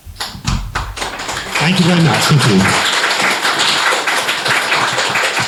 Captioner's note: applause